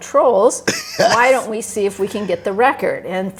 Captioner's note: laughs